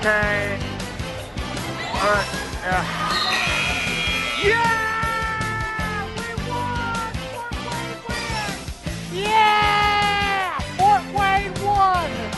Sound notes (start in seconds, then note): 3.0 final buzzer sounds